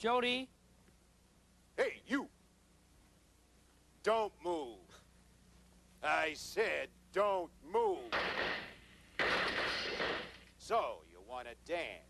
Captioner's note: gunshots